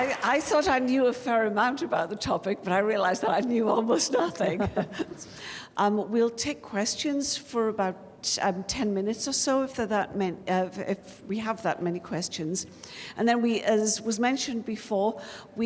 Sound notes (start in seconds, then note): 4.4 chuckles